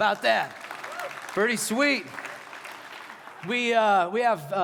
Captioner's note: applause